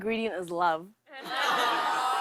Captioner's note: audience "awws"